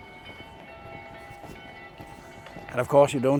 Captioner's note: chruch Bells Ringing